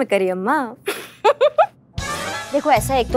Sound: giggling

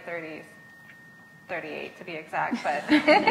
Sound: laughs

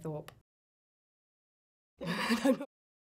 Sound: laughing

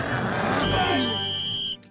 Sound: whistle

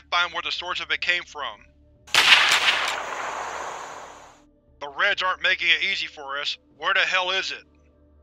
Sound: more gunshots can be heard from now the other side of the river

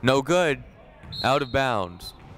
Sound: whistle blowing

